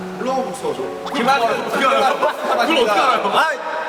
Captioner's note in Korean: ㅋㅋ